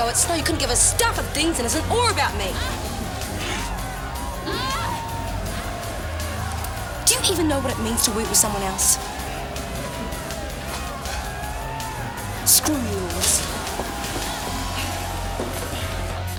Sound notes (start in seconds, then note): 4.6 crowd cheering; 4.6 women moaning